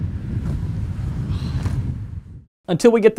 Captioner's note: sighs